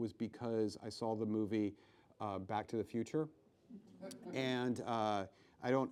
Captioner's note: laughs